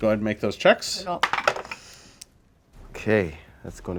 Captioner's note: dice roll